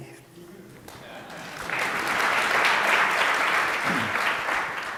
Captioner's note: audience applauds